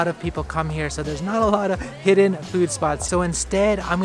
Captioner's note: chuckles